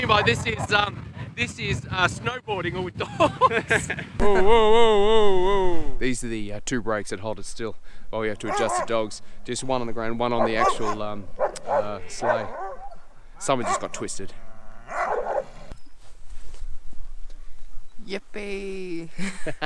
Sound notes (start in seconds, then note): 3.0 both laughing; 19.1 both laughing